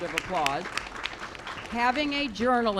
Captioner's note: applause